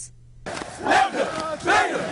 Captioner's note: nats: chants